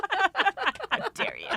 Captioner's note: all laughing